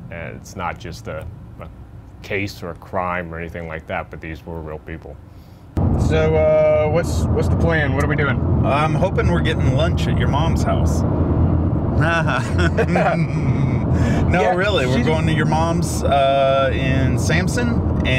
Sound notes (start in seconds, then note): 11.9 Dave laughing